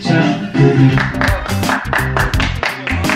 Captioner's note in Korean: 박수소리